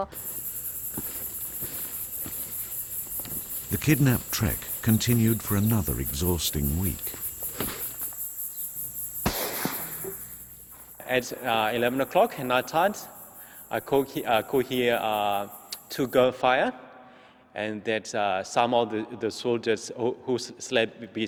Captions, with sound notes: (beetles hissing) - [Voiceover] The kidnapped trek continued for another exhausting week (gunfire)